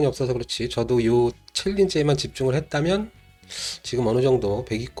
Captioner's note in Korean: 스읍